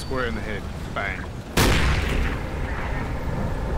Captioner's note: gunshot